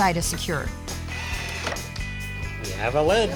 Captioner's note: drilling sound